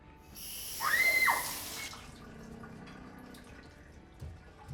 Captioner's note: casey turns on water, shrieks in terror